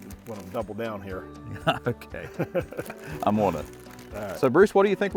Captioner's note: chuckles